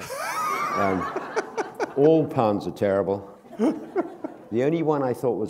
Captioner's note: laughter